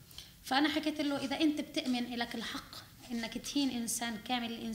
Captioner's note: speaking arabic